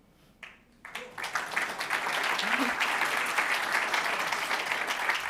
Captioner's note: audience applauding